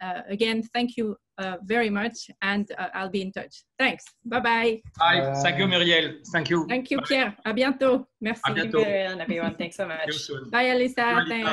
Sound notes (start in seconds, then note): 7.6 speaking in foreign language